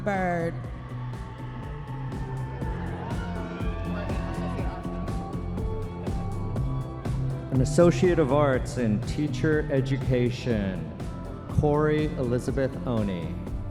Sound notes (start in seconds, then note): 4.6 audience members cheering